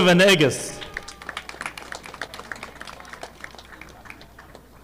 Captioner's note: audience clapping